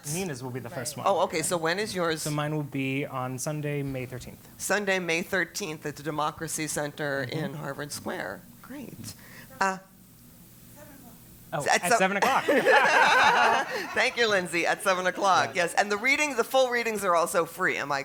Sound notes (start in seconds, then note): 12.2 laugh